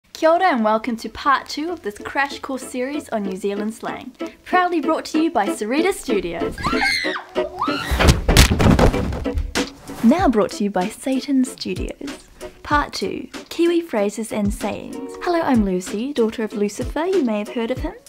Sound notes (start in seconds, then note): 6.6 screams